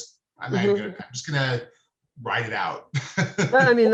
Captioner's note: laughing